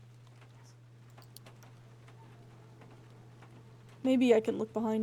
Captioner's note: distant Dogs Yaps